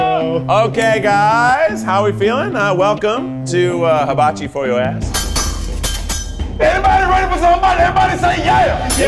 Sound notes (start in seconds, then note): 5.1 spatulas clang